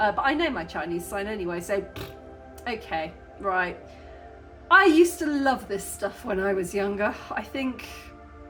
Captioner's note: raspberry